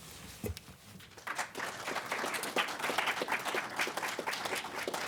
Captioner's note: crowd applauds